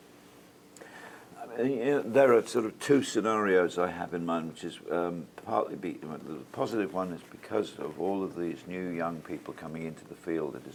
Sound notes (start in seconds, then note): none